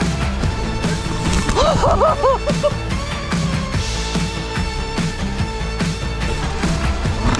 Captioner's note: bicycle crashes; rider shouts